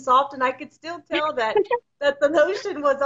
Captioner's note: laughs